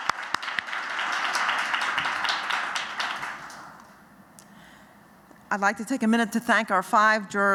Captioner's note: applause